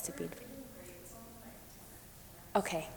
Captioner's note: woman speaks off microphone